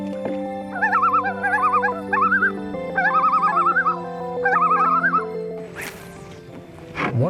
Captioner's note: loon call